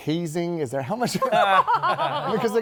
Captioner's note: laughter